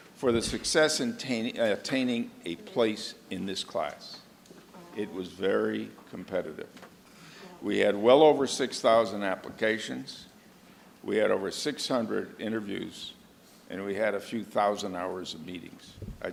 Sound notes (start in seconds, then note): none